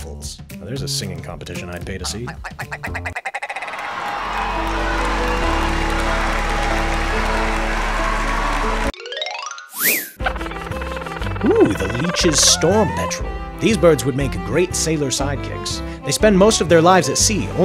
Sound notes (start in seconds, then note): 1.9 rapid, nasally cluck; 3.5 cheering, applause; 9.3 chime, whistle